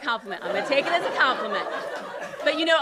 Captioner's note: laughter